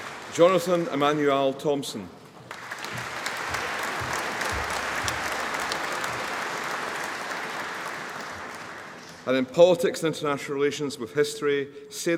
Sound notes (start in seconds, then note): 2.4 audience applauding